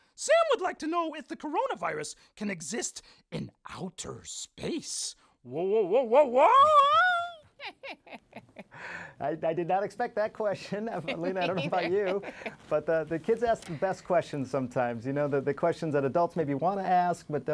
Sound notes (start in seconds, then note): 6.6 everyone laughing